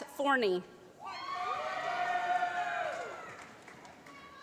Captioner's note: applause